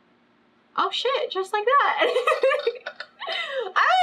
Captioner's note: laughs